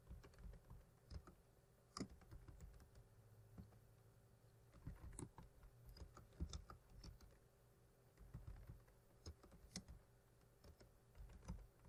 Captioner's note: typing